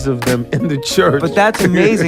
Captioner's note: laughs